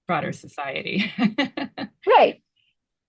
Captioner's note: laughs